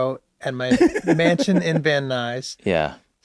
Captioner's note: laughs